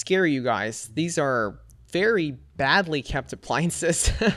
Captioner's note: laughs